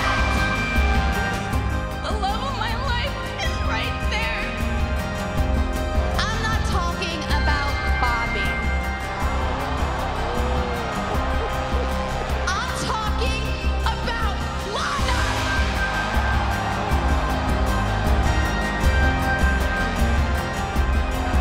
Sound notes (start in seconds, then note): 1.5 dramatic music; 9.2 audience gasping; 15.7 audience gasping; 18.6 dramatic music